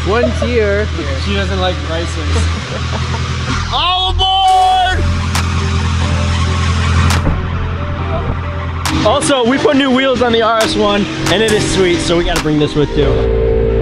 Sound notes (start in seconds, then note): 2.2 laughing; 5.5 rhythmic hiphop music